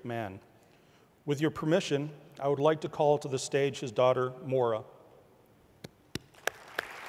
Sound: applause

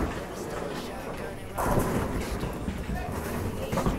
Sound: bowling pins crashing

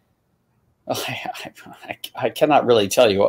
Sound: chuckling

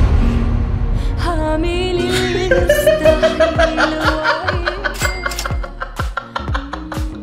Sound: laughs

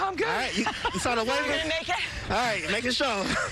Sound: laughter

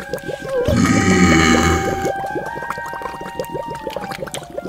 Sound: burps loudly

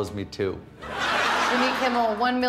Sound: laughter

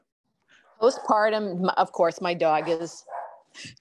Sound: dog barks in background

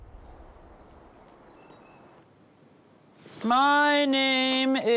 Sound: birds chirping

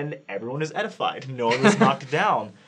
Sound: laughing

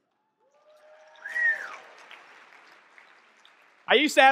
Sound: audience clapping and cheering

